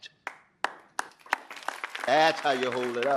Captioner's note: audience applauding